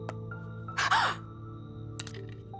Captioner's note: Jessa gasps